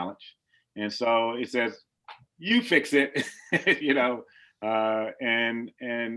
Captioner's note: laughs